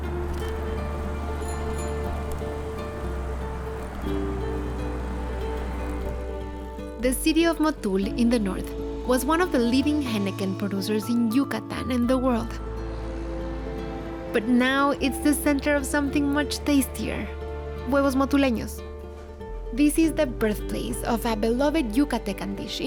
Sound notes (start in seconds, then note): 1.0 bicycle bell rings